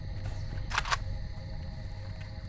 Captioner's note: gun cocks